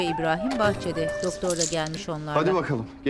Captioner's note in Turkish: Anahtar sesi